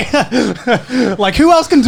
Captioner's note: Garnt laughing